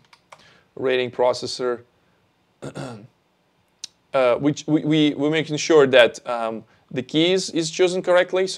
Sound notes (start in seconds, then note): 2.6 clears throat